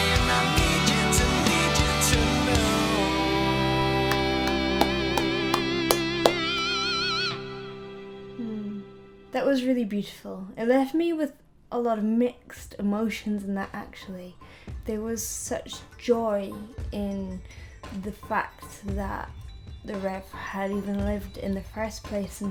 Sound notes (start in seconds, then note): 4.1 claps